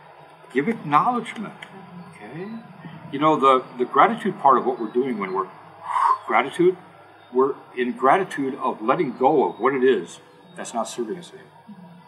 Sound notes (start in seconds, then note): 5.7 exhale